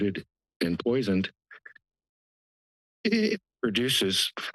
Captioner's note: pause